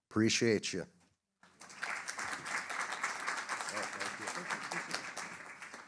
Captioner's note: applause